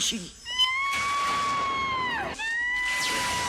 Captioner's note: Laura screaming excitedly